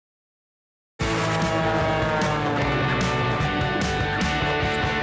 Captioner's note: plane soaring